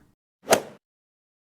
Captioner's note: swoosh